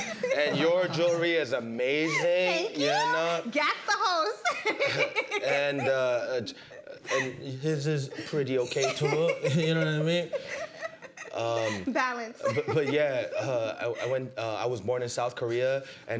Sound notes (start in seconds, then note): 4.4 giggles